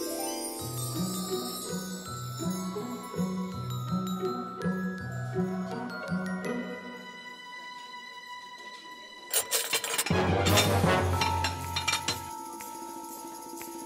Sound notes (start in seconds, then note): 9.3 dishes clinking